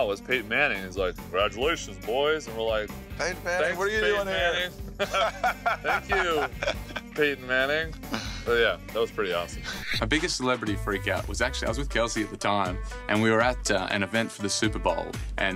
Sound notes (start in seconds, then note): 5.0 laughing